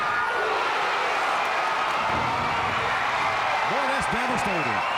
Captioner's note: crowd cheers